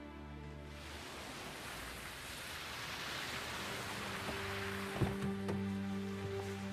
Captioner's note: water splashing